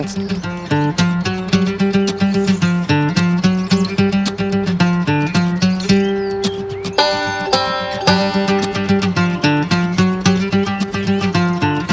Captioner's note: birds